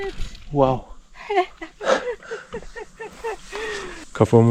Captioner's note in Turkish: kahkaha